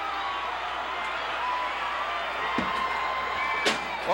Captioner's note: crowd cheers